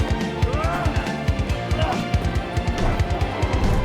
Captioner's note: both moaning